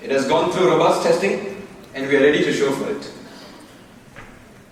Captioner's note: none